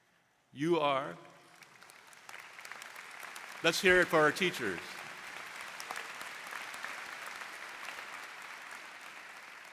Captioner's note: applause